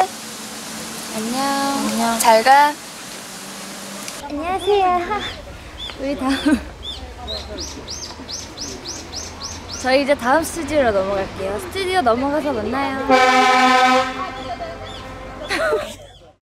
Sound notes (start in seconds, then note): 13.0 the sound of the horn to announce the end of shooting